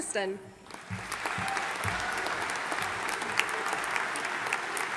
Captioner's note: audience applauding